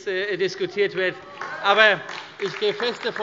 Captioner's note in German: Demonstrativer Beifall DIE LINKE